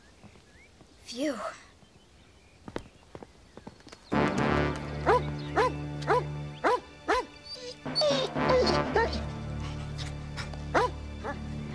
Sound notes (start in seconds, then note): 5.5 dog barking; 7.4 Prince whimpers